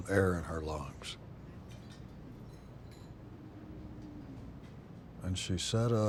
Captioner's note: silverware clinking